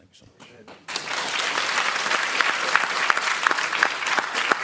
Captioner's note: applause